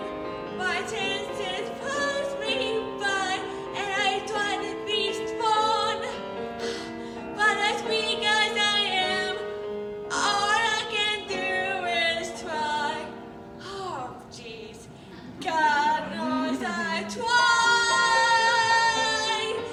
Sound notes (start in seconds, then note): 11.0 sigh